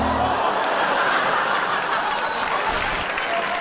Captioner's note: crash; audience laughs; audience applauds